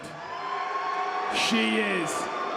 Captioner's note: audience cheers